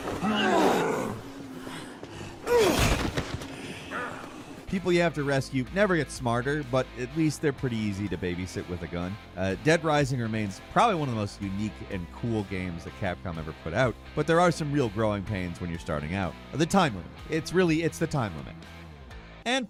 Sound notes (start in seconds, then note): 0.0 zombie growls